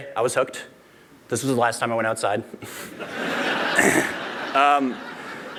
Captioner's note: laughter